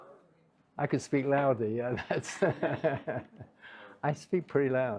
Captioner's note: laughs